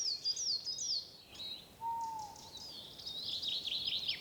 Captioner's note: owl hoots